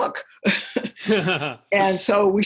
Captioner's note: laughter; chuckle